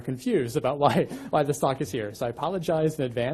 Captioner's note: chuckles